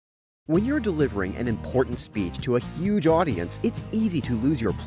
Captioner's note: voiceover